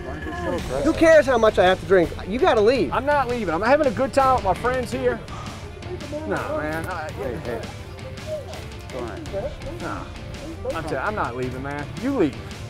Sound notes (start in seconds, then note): 7.7 voiceover